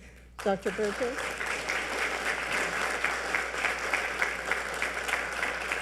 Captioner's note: audience applauding